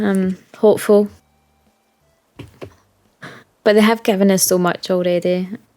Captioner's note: huge sigh!